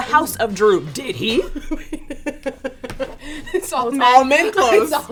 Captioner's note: laughs